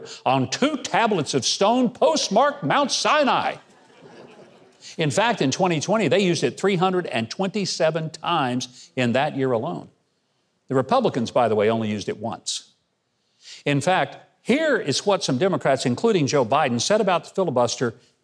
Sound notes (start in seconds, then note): 3.6 audience laughing